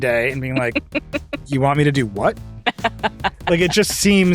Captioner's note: chuckles